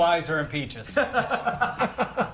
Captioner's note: laughing